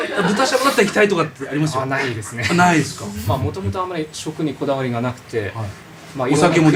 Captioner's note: laughs